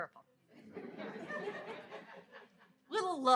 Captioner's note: audience laughs